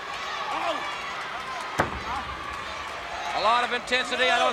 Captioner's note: crowd cheering; wrestlers grunting; body thudding